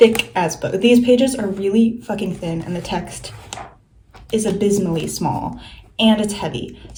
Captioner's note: flips through book